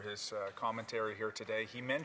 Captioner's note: speaking French